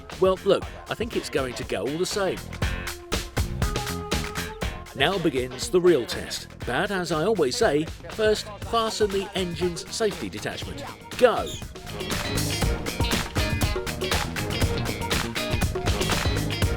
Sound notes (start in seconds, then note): 11.2 whistle blows; 12.7 lively music